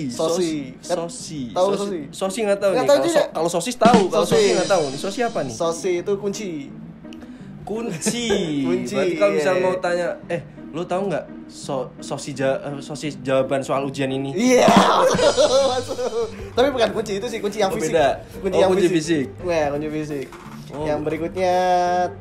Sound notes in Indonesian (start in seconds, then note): 14.6 tertawa